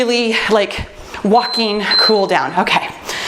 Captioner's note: timer beeps